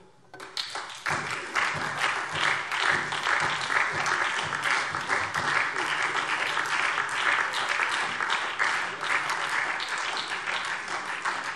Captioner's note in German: Beifall SPD und DIE LINKE